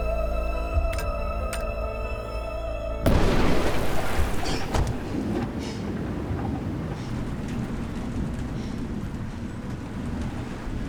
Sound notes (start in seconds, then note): 0.0 tense music continues; 3.0 thunder rumbling